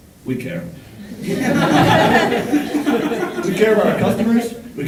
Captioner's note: audience laughing